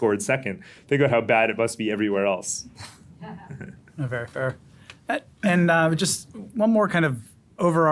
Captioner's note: laughter